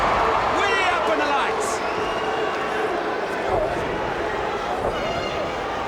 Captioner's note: audience barks